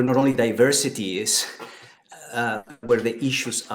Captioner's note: laughs